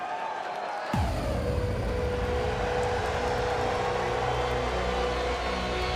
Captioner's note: crowd cheering